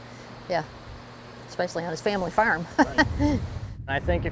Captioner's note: laughs